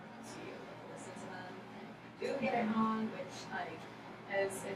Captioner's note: speaking softly